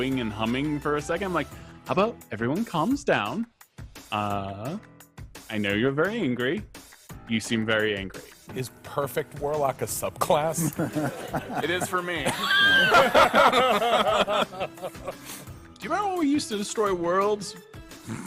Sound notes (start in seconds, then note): 10.4 all laughing; 18.0 lively upbeat music